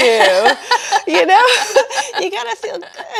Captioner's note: laughing